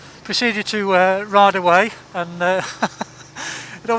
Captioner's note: laughs